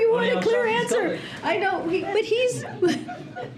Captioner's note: laughter